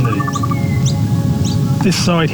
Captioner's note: birds chirping